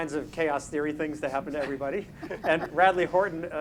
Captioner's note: panelists laughing